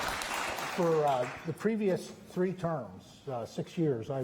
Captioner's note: applause